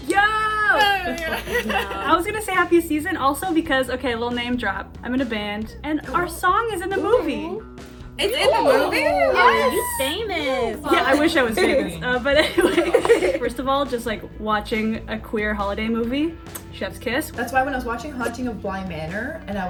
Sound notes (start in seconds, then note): 0.8 women laughing; 8.3 women exclaiming; 12.3 laughs